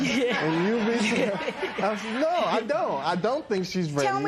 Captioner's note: laughter